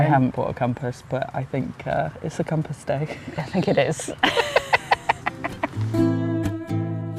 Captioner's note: giggles